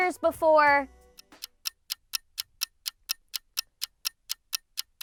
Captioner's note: clocking ticking